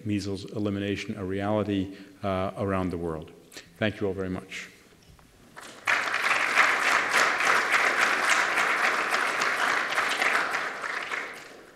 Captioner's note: applause